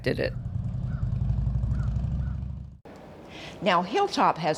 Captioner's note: motor rumbling